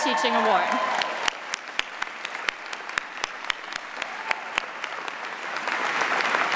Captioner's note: audience cheering and applauding